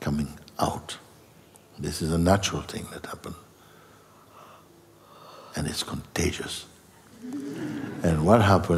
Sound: laughter

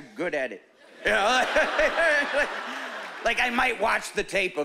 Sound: laughing

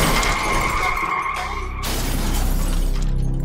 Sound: none

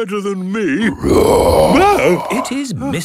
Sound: loud roar

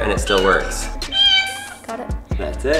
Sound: cat meows

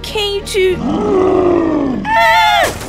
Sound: roar!

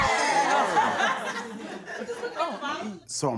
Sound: laughter

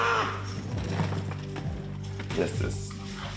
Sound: shouts

